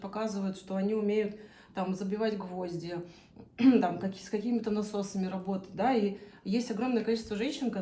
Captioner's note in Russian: откашливается